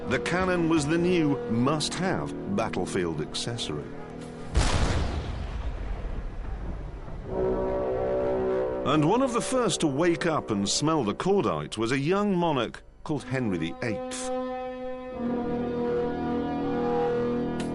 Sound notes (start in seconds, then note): 4.4 gunshot